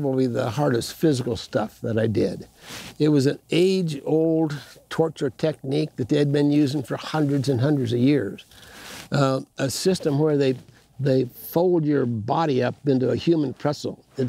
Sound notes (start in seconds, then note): none